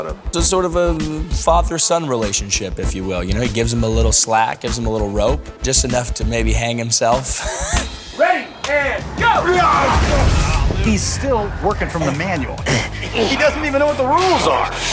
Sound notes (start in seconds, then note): 7.2 laughs; 8.1 exclaims